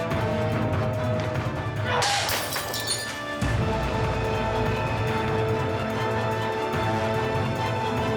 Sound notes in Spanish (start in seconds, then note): 2.1 ruido de vidrios rotos